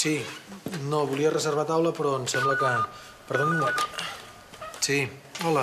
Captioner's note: sona el telèfon